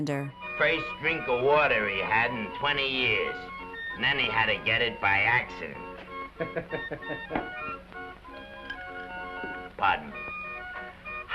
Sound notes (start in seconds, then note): 6.4 bartender chuckling